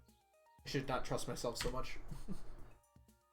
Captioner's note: chuckles